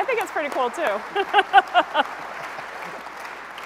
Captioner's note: laugh